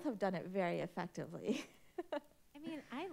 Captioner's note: chuckles